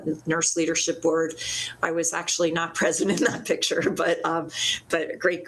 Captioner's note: laughs